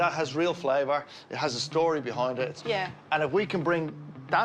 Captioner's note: none